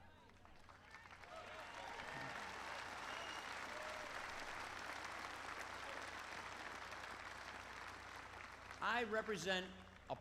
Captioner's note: applause